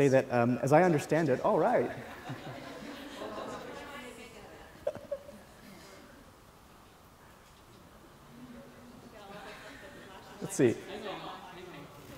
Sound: laughter

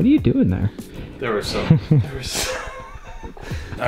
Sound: laughs

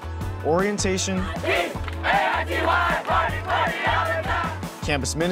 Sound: students cheering

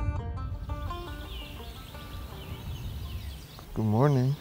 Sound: birds chirping

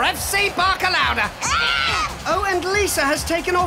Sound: screaming

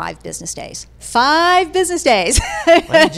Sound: laughing

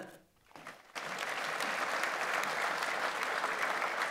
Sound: audience applauds

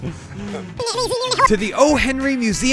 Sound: laughs; rewinding noises; slightly more enthusiastically

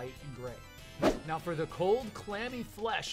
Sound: swoosh

